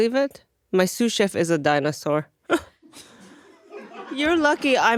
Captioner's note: laughs